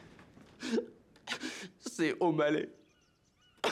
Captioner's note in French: sanglots